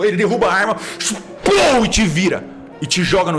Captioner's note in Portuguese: Pow